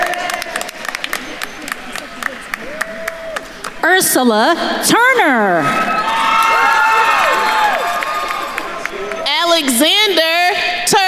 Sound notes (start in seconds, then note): 0.2 attendees applauding; 6.3 attendees cheering and applauding